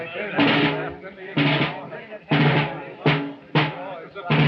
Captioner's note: chattering